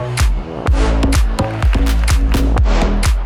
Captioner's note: audience applauding; upbeat electronic music